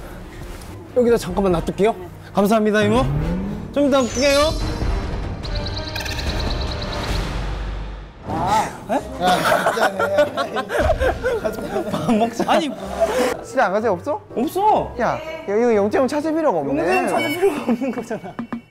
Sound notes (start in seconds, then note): 8.6 haha